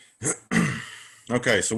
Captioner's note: clears throat